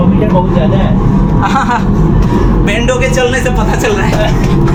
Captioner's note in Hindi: गला साफ़ करने की आवाज़